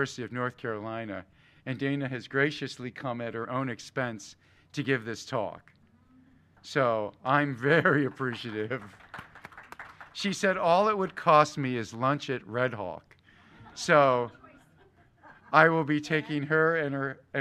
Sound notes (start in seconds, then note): 7.7 applause